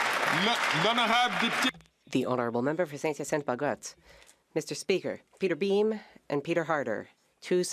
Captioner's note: some Applause